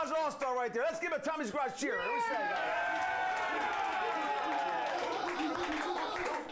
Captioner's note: audience cheering